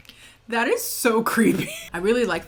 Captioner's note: laughs